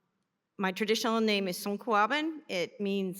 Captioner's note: non-english